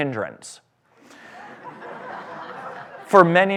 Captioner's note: laughter